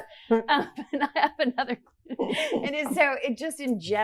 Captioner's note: laughs